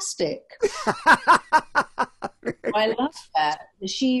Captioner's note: laughs